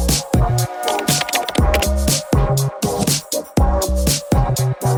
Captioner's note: upbeat music; keyboard clunking; upbeat music